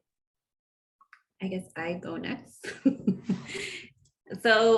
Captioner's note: laughs